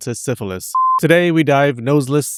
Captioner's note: beepity beep